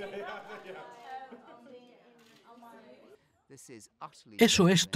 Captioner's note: both laughing